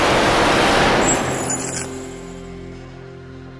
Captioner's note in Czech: Padající nábojnice